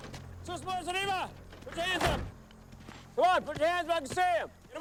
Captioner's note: speaks Spanish